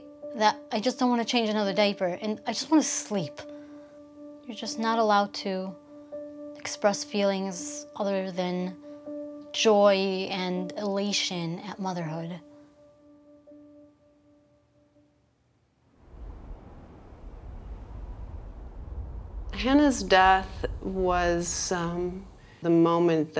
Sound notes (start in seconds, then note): 12.5 soft pensive music; 16.0 wind blowing distantly